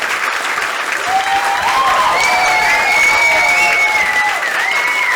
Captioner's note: cheering and whistling